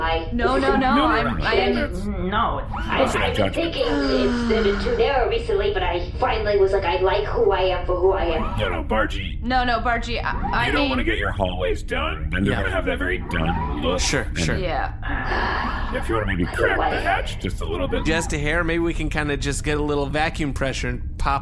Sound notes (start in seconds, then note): 2.7 sighs